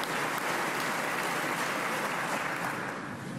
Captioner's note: applause